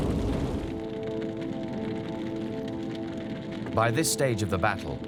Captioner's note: fires crackling